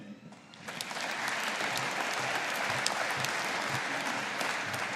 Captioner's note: audience applauding